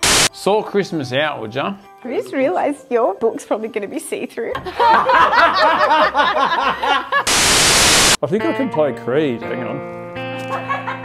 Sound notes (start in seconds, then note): 4.6 all laugh